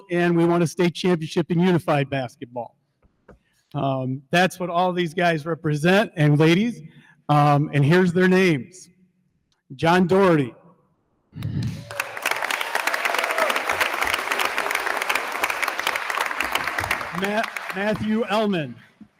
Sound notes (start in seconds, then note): 11.6 attendees applauding; 11.7 attendees cheer